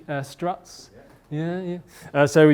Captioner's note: voiceover